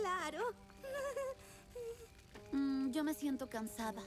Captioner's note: weak laugh